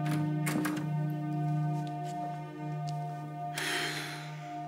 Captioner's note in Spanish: sonido al abrir la puerta